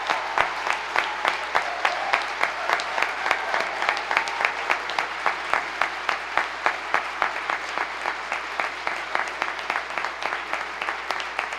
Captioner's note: applause